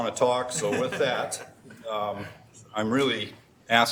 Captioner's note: laughing